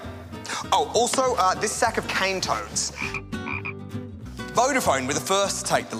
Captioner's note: gribbit, gribbit